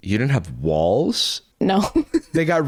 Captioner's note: chuckles